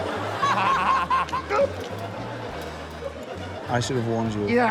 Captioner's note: laughter